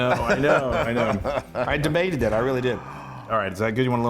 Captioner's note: laugh